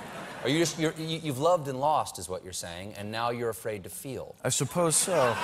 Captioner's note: laughter